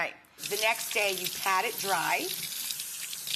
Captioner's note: water runs